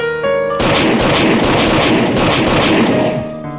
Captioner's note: gunshots